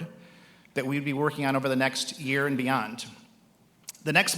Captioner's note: none